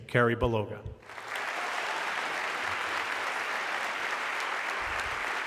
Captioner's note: audience clapping